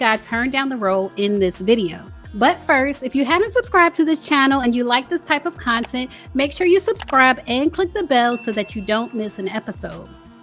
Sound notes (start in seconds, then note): 5.7 computer mouse clicks; 8.2 bell dings